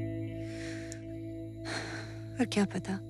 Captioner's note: Sighs deeply